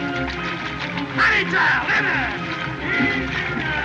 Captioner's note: shouts